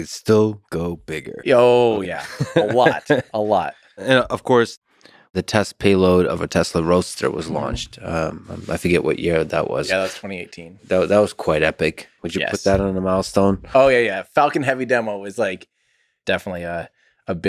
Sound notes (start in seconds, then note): 2.0 Lex laughs